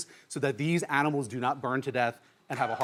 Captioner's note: audience cheering